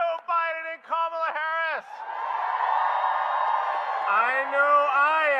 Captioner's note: applause